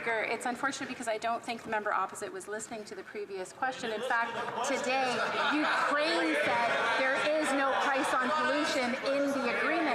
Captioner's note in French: voix de l'interprète